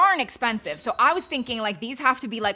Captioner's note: cash register chimes